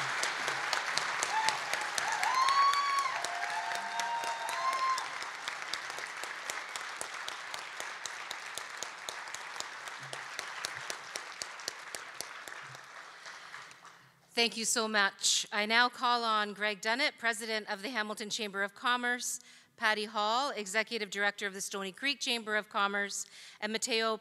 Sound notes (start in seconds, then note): 0.0 applause; 7.2 cheering